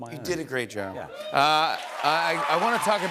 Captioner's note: cheers and applause